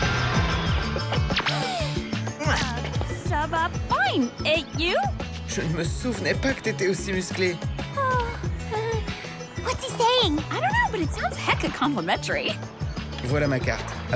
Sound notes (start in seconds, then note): 2.6 lighthearted music; 6.0 gasping